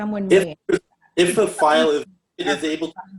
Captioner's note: stutters